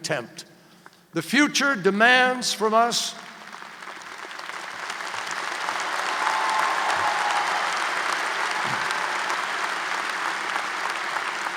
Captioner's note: applause